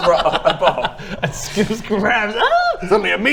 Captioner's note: ahhhhh